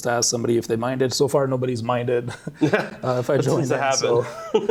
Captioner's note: laughs